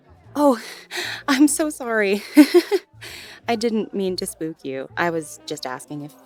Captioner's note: chuckles